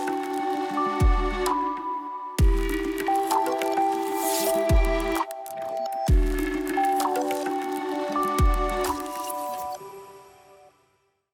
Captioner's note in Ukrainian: оплески